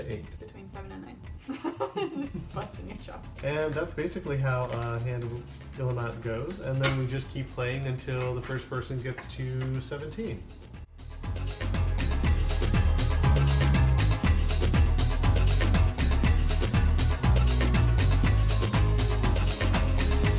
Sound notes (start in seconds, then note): 1.4 laughter; 10.4 electronic music